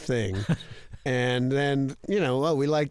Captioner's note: laughter